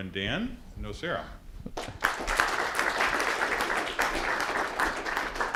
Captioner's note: applause